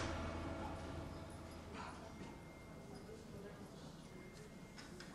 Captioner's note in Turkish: Hastane ortam sesi